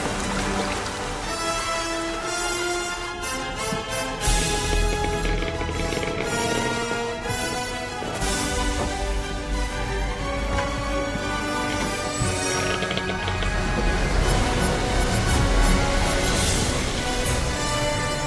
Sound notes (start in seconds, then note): 0.1 ocean roars; 5.7 galley creaking